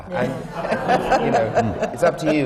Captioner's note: laughter